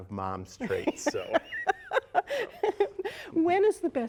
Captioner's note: laughter